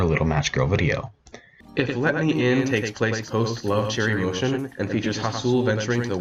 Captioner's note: flashback voice